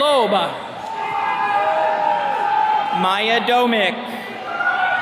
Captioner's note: attendees cheering